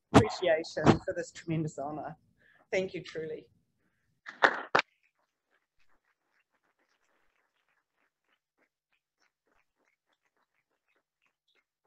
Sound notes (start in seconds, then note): 4.3 audience applauding